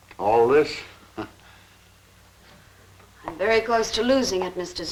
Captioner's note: chuckling